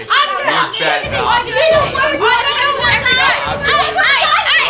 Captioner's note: indistinct screaming continues